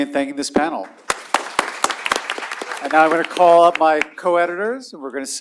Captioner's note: applause